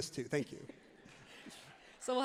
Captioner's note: everyone laughs happily